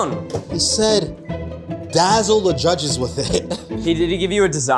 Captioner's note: laughs